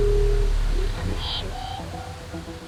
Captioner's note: sound twanging